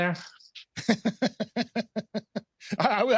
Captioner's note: laughter